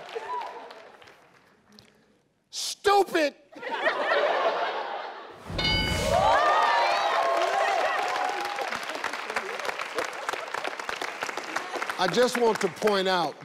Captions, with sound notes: Stupid. (people applauding) I just want to point out,